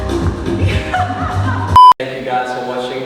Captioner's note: laughs